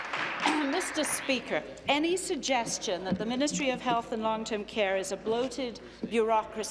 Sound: applause

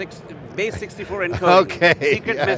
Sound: chuckles

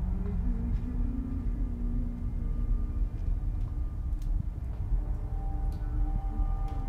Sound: hums

